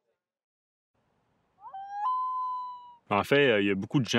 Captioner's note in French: brouhaha de voix en fondu; hululement du Plongeon huard